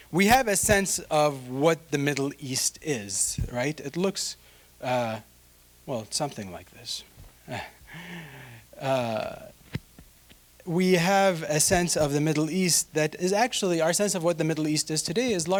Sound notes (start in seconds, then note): 7.6 chuckling